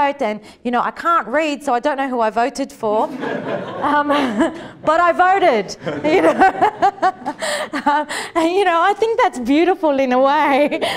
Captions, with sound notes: And I can't read so I don't know who I voted for. [Laughter] But I voted. And I think that's beautiful in a way.